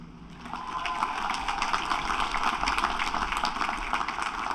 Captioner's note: applause